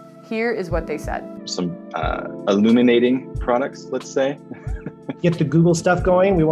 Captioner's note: chuckles